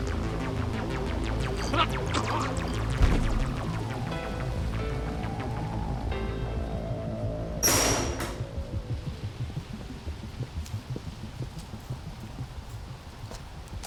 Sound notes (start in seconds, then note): 2.1 man gurgling, body falls; 7.6 door closes